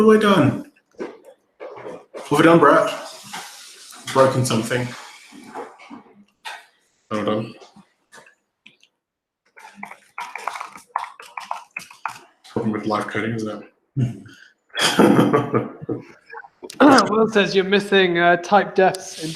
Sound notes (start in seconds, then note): 9.8 typing; 14.8 laughing